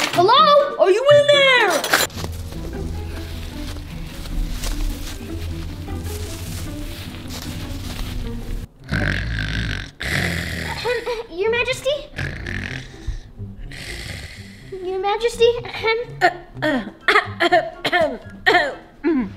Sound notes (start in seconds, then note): 5.7 grass rustles; 8.8 Queen snores; 16.1 Queen coughs